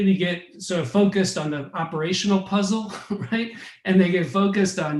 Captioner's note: laughs